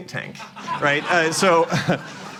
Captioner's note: laughter